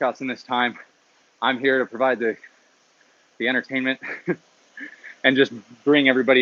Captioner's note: laughs